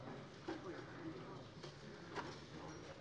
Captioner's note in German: none